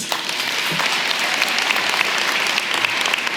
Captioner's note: applause